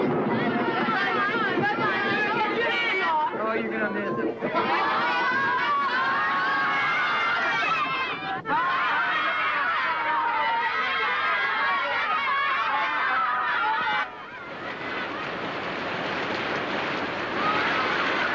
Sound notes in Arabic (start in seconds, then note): 2.7 صراخ الأطفال; 15.5 تصفيق الرعد